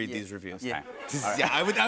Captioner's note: laughter